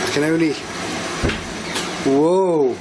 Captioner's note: door creaking